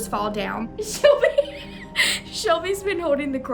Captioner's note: laughter